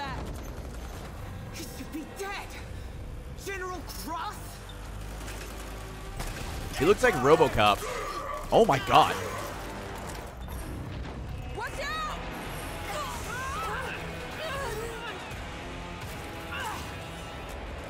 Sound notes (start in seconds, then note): none